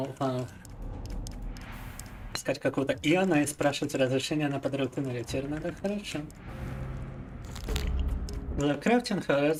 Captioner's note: speaking in Russian